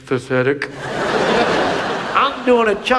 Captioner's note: audience laughs